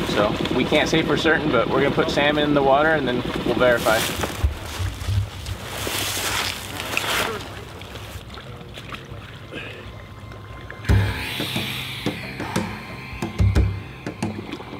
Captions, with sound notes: so we can't say for certain, but we're gonna put Sam in the water, and then we'll verify. (leaves rustling) (dramatic instrumental music)